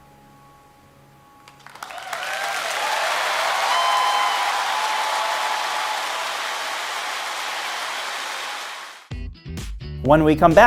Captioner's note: applause